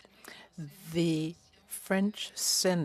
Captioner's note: speaking French